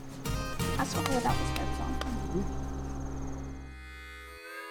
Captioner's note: hands slap